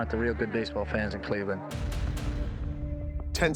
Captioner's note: dramatic thudding